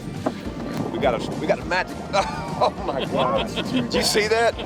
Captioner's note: men laughing